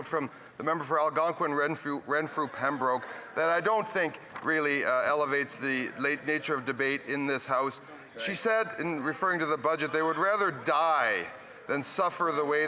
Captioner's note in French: voix de l'interprète